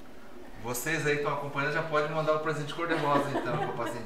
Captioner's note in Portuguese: risos